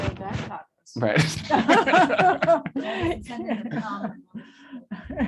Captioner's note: laughter